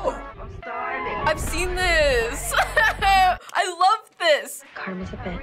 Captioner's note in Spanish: la música se intensifica; Risas